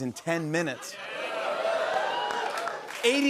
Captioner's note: cheers and applause